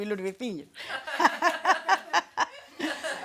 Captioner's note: everyone laughs